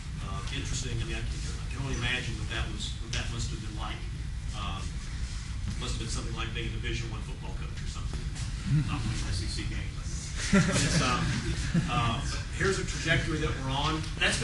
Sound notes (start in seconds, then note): 10.3 laughter